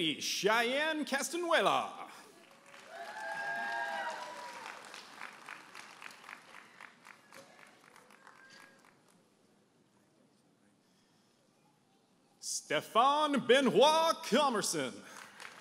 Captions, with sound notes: - Katy Cheyenne Castanuela. (audience applauding and cheering) Stefan Benoit Commerson.